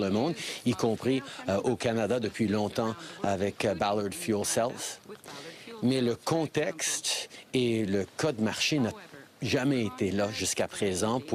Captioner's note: speaking FRENCH